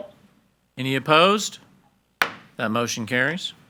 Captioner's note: hammer slamming